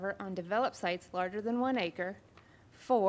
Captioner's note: none